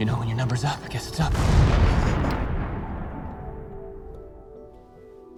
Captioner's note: bomb explodes